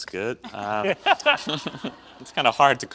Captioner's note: audience laughs